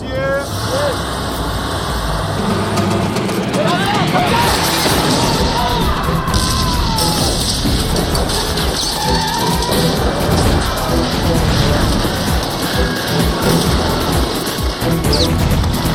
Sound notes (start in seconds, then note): 0.2 engine roaring; 2.8 officers shouting, screaming; 7.8 gunfire